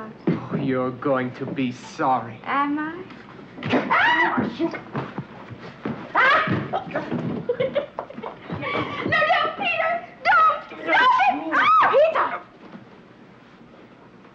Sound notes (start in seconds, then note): 3.8 Anne screams; 6.7 Anne giggling